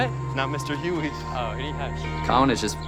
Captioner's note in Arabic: ضحك